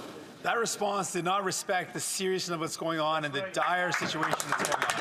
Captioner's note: some Applause